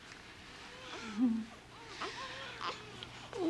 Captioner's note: patsy chuckles